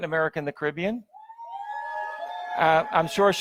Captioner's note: audience members cheer